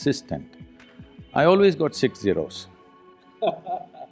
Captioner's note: laughter